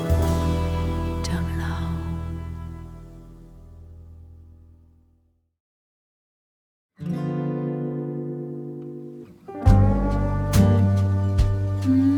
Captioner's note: humming low